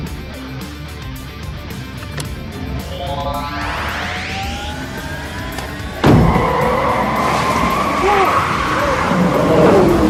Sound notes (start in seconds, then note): 2.3 engine roaring; 6.0 rock music playing; 7.3 engine accelerating; 7.3 man shouting